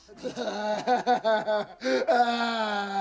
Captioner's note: sobbing